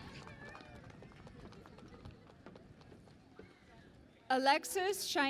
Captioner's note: cheering and Applause